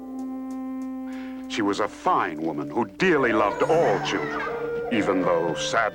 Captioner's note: children laughing